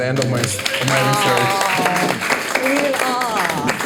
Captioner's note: all applauding